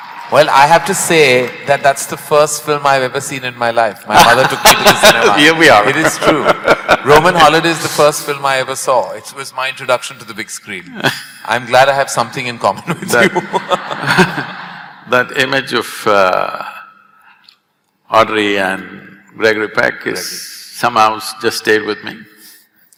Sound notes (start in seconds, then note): 4.1 Sadhguru laughs; 10.9 Sadhguru laughs; 12.8 laughter; 22.0 laughs